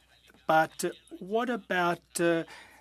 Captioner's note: speaking French